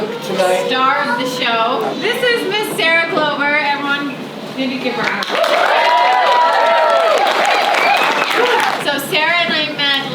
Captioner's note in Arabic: تصفيق